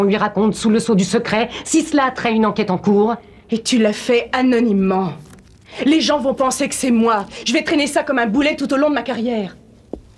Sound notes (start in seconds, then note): none